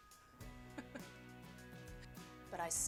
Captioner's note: laughing